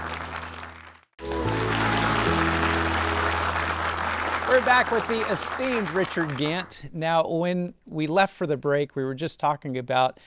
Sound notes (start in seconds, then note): 1.2 upbeat music; 2.3 audience applauding